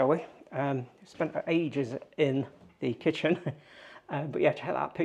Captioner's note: chuckles